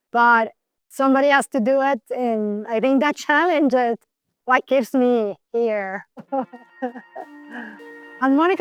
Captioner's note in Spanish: Ríe